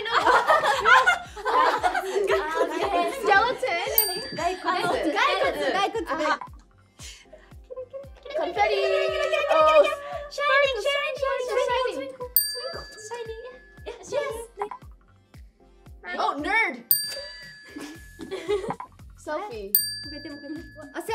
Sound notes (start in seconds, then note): 0.0 group laughing; 5.0 speaking Korean; 17.7 both giggling